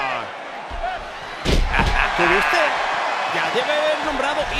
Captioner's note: laugh